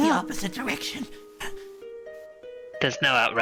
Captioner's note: Scrappy quiet gasp